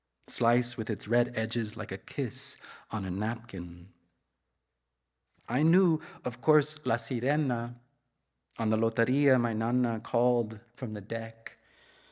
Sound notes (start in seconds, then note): 7.5 speaks in Spanish